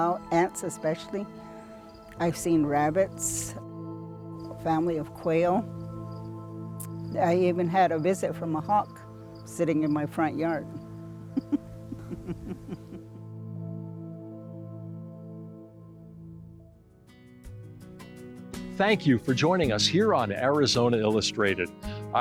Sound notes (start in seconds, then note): 11.3 laughs; 17.7 bright music